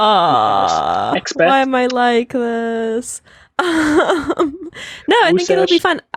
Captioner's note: laughing